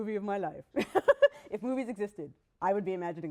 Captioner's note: laughs